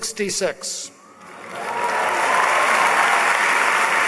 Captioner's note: applause